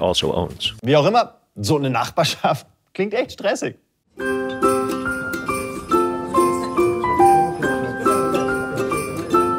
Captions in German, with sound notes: Wie auch immer, so eine Nachbarschaft klingt echt stressig. (Weihnachtliche Musik) (Stimmengewirr)